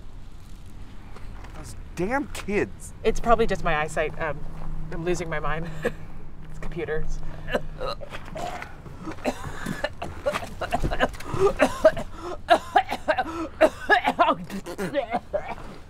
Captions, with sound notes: - Those damn kids. - It's probably just my eye sight, I'm losing my mind (chuckles). It's computers. (woman gagging and coughing)